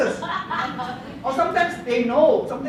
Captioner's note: laughter